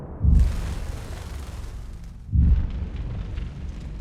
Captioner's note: loud explosion; birds flapping; trees burning